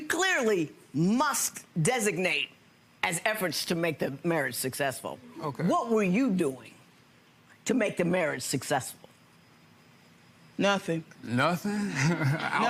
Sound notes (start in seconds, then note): 11.8 chuckling